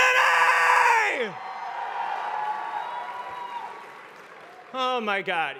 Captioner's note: cheering